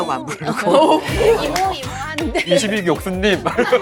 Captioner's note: sudden burst of laughter